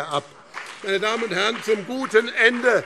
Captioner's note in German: Beifall BÜNDNIS 90/DIE GRÜNEN und CDU